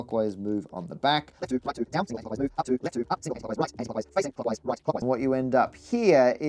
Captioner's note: sped up audio